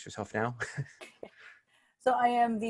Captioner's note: laughter